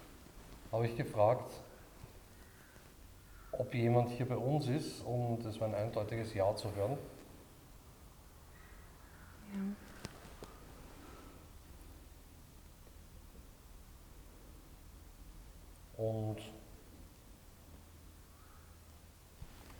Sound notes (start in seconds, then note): 8.2 silence in the background